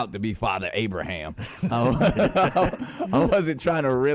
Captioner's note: both laughing